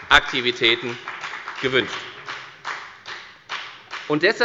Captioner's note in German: Beifall bei der FDP